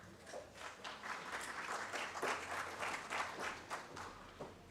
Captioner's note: audience claps